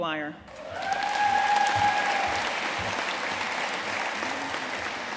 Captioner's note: audience cheering and applauding